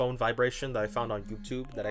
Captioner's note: cellphone Vibrates